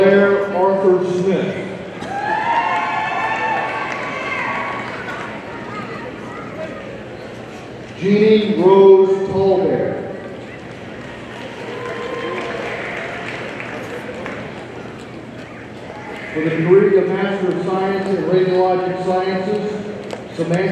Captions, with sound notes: Blair Arthur Smith, (audience cheering) Jeannie Rose TallBear. (audience applauding) For the degree of Master of Science in Radiologic Sciences,